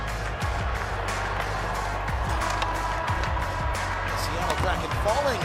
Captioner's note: crowd chattering